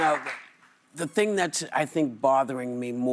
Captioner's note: applause